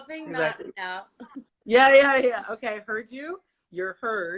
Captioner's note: laughs